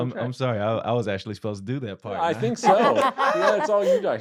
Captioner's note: laughter